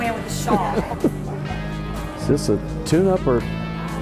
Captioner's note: laughter